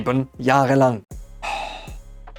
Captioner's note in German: Seufzer